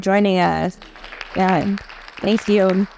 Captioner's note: audience applauding